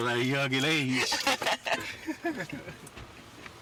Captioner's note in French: Rires